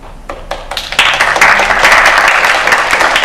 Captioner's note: applause